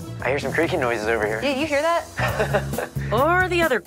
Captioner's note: laughs